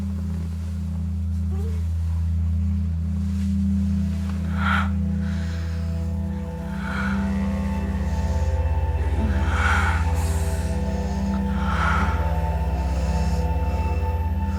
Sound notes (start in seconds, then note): 4.3 erotic sighing